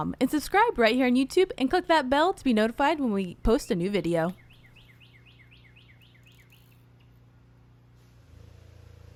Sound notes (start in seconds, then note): 5.0 birds chirping